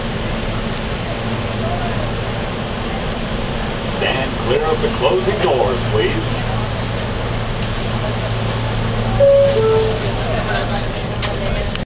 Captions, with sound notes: Stand Clear of the closing doors please. [door chime]